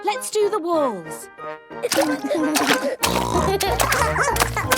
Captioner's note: barking; giggling; snorting